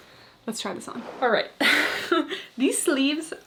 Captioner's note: chuckles